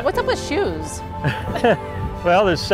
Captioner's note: laughter